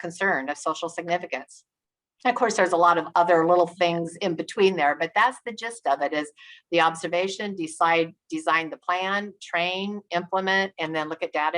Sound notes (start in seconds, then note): none